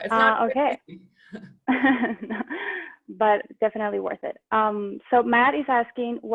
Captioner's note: laughing